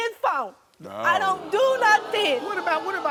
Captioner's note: audience groans